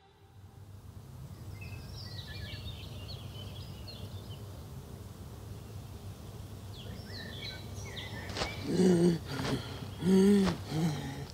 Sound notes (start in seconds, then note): 1.2 birds chirping; 8.3 gasping